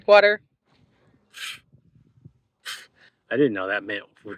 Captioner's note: doubtful poofing sound